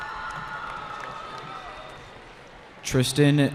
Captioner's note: cheering